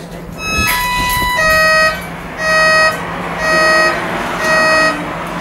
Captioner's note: alarms go off